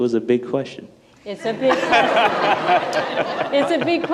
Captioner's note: people laughing